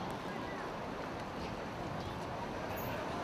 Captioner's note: none